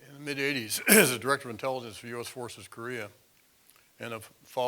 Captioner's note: cough